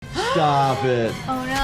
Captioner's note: gasping